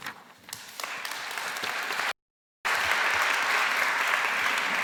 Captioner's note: applause